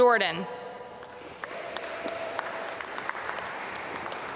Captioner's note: applause